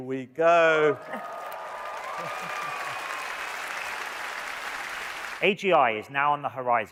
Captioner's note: audience cheering and applauding